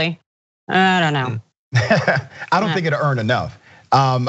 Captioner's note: laugh